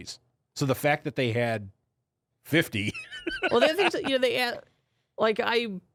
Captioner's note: laughs